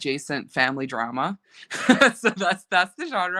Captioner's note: laughing